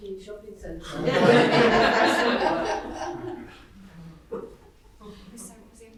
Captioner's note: audience laughing